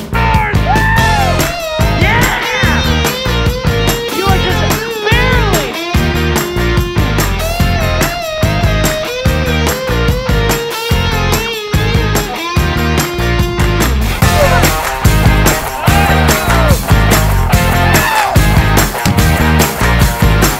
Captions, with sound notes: (yelling) - You are just barely. (upbeat rock music) (yelling) (explosion)